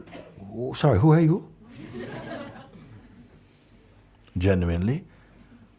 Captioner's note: Lachen